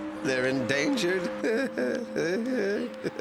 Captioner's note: weak chuckle